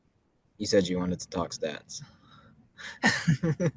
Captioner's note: laughs